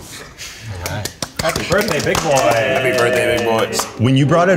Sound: clapping

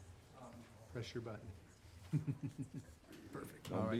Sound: chuckles

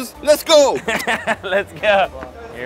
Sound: laughs

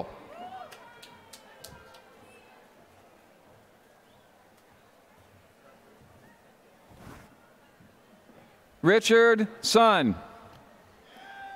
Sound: applause

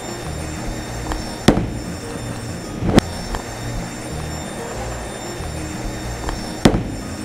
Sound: audio warbling; bowling ball thuds

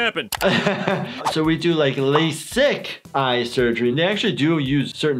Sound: chuckle

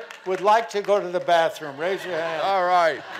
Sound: laughing continues

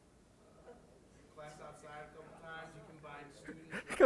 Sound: laughter

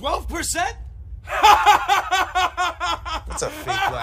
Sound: rocket laughing

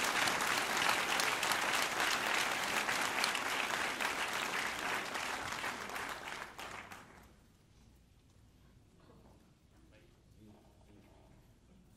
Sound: applause

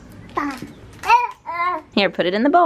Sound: baby babbling

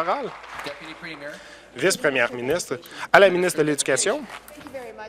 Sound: applause

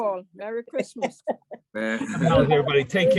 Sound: trustees clamoring

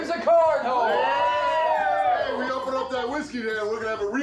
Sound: people cheering

